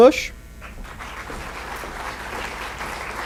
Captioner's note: applause